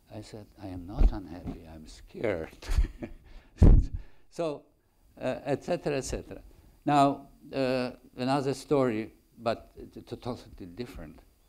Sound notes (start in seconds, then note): 2.8 laughs